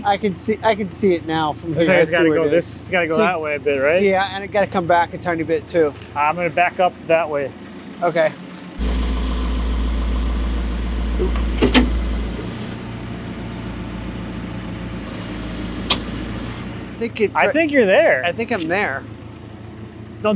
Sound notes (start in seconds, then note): 8.9 engine humming